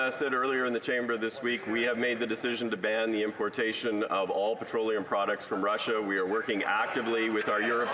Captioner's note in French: voix de l'interprète